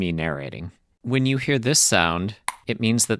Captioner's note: click